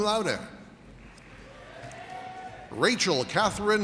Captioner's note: audience cheers and applauds